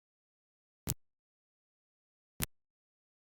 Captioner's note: click 3